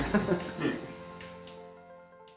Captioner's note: rire